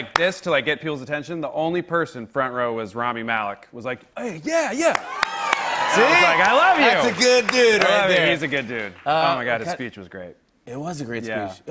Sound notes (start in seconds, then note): 4.5 cheers